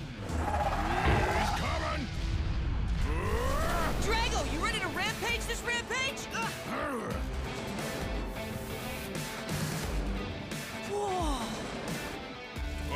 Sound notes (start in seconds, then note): 0.2 roaring; 2.9 shouting; 6.3 Drago growling